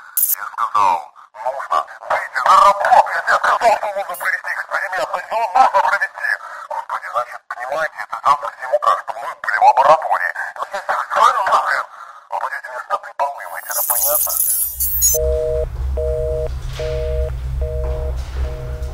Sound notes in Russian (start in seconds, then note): 8.4 помехи